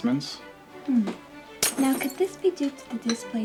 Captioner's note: glass shattering